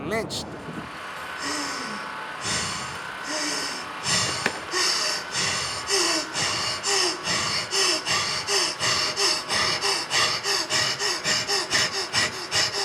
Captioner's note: desperate breathing